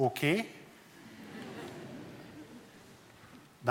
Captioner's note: laughter